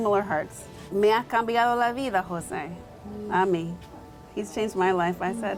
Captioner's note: speaking in foreign language